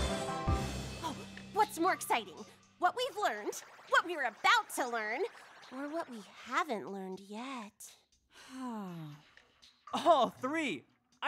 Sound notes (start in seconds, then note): 8.4 sigh